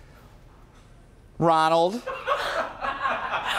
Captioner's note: laughter